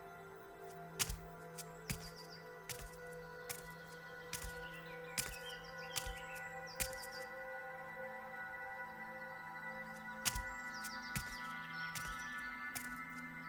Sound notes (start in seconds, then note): 1.0 footsteps thumping